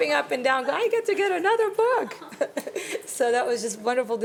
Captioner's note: chuckles